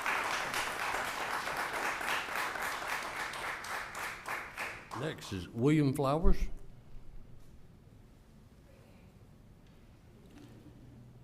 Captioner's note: applause